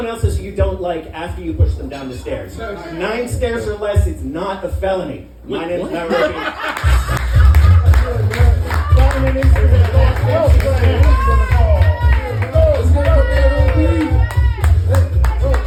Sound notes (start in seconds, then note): 5.8 laughter; 6.7 applause